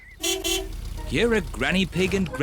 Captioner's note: horn beeps